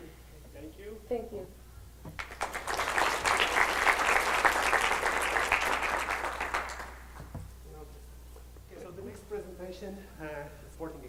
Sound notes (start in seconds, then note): 0.4 voiceover; 2.1 applause